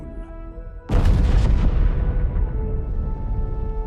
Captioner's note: loud collision; impressive orchestral music